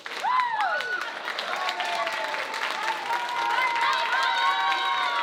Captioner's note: audience screaming